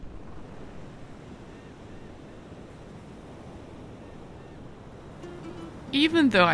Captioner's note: birds chirping; water sloshing